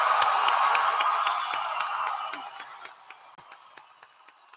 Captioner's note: applause